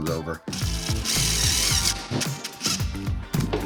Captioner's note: drill whirring